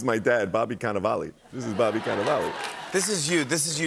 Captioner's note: laughter